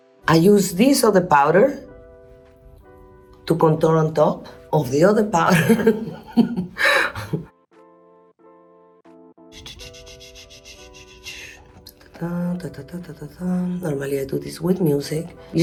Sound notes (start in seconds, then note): 0.0 upbeat music; 5.6 laughs; 7.5 gentle music